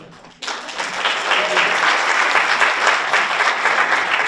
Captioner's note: audience applauds